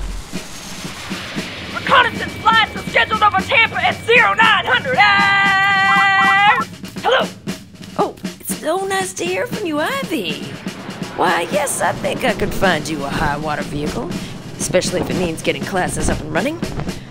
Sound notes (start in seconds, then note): 0.0 jet engines; 5.9 beeping